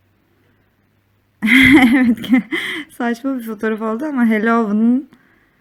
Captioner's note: laughing voice